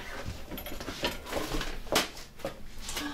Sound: shop ambient sound

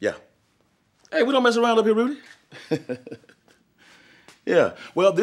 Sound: laughs

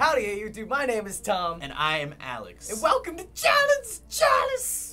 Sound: none

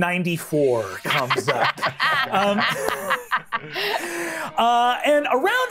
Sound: players laughs

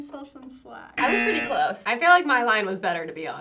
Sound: buzzer rings

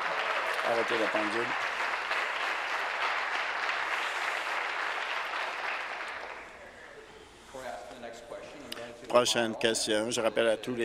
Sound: applause

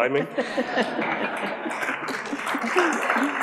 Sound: everyone laughs; audience applauds

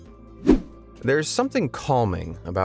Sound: video whooshing

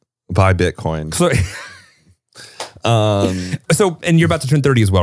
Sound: laughing

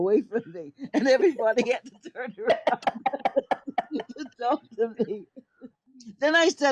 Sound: laughs

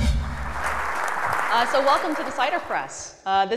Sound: applause

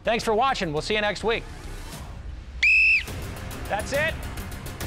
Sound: whistle blows

